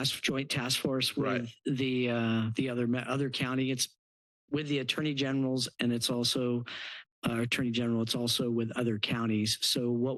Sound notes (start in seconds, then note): 6.7 stutters